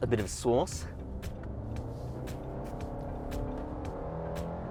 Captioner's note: car revving